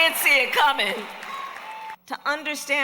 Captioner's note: applause